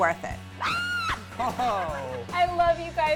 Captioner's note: screaming